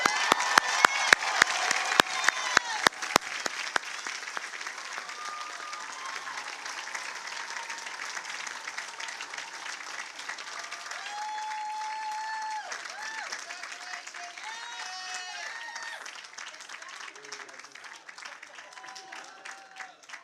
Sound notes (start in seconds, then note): 9.5 cheers and applause